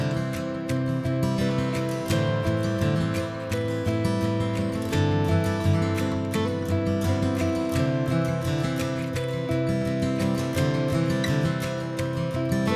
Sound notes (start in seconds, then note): none